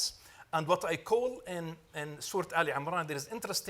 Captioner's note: speaks Arabic